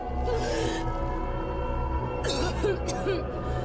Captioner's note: gasps; tosse